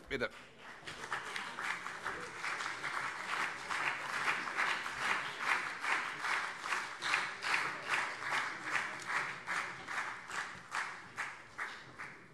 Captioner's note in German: Beifall CDU